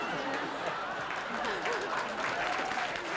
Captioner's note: applause